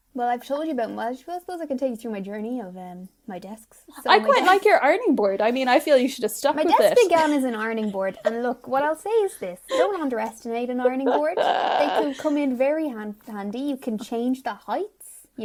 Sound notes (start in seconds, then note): 4.0 laughs; 10.7 laughing